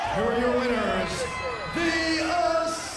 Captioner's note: bell ringing